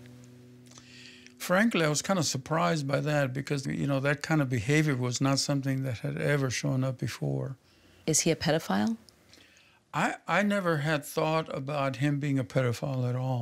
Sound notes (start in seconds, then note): none